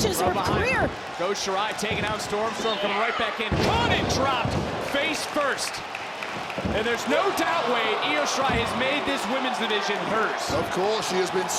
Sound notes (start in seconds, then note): 4.7 crowd applauds; 5.7 crowd cheering